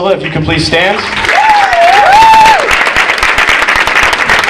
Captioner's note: audience applauding